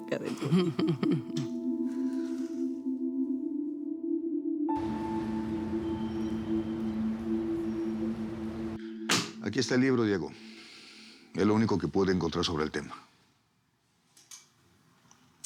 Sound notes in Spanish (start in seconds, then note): 1.7 risas